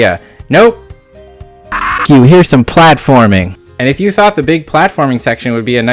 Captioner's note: parrot Squawk